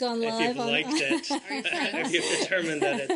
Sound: laughter

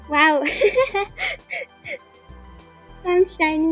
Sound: laugh

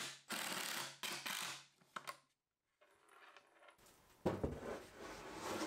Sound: impact Drill being used; nail gun cabinet being slid into place

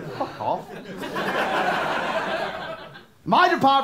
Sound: laughter

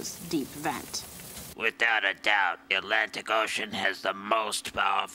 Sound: voice distorted

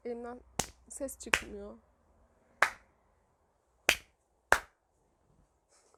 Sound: clapping sound

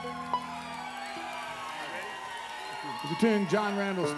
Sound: audience applauds; audience cheers

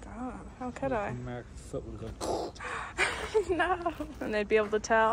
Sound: scrape

